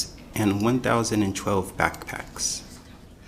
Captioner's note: none